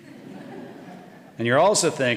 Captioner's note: audience laughing